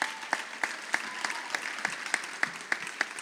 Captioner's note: audience applauding